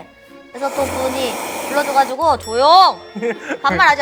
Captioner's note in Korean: 스으으으으으읍